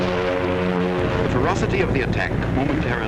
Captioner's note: voiceover